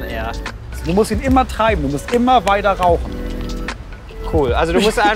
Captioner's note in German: lacht